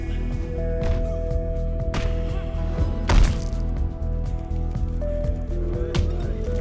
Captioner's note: men grunting; punches thudding